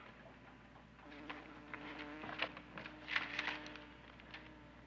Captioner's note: fly buzzing